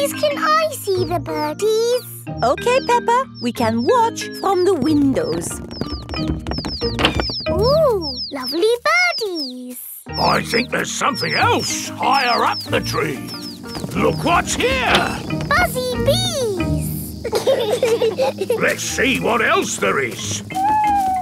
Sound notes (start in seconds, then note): 17.7 bees buzzing